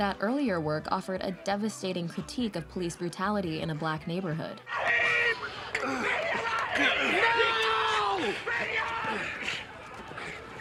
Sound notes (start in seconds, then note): 5.7 screaming